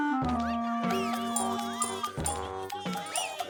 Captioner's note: whoops of laughter